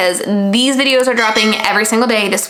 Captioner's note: bell chimes